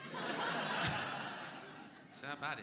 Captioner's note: crowd laughing